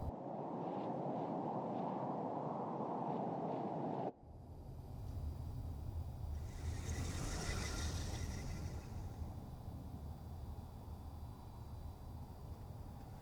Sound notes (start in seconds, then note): 0.5 wind blows; 6.4 soft chittering